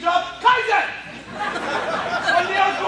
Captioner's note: laughter